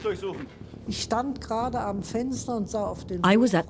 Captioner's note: speaks in foreign language